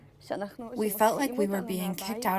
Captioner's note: through translator